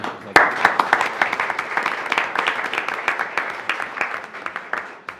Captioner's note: attendees applauding